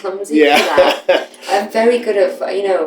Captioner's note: laughter